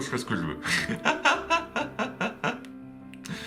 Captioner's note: laughs